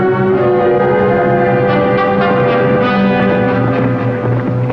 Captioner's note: hoofbeats approaching